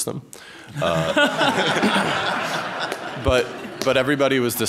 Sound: laughter

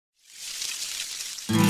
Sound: rustling flowers

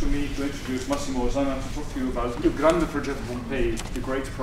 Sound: speaking italian

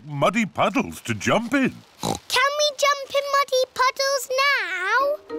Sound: oinks

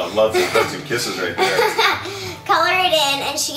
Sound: laughing

